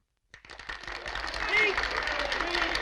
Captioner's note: applauding